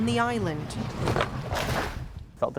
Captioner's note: water splashing